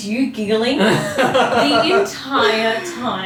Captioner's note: laughter